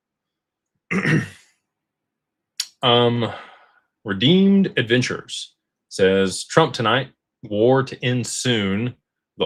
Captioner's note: clears throat